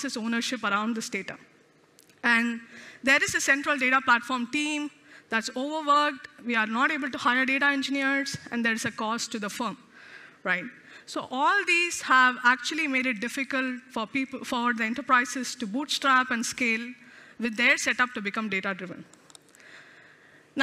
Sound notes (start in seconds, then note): none